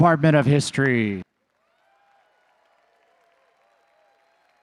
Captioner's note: audience cheering